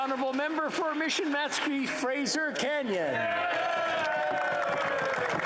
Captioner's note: applause